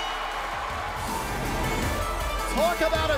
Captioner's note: crowd cheering; bell ringing